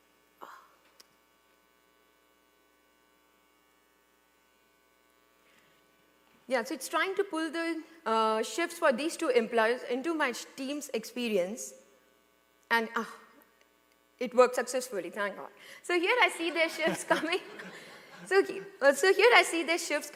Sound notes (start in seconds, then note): 13.2 laughter